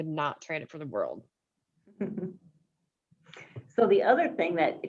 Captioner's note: chuckles